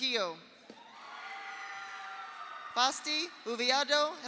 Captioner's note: audience cheers; audience applauds